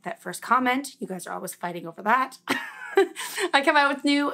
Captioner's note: laughs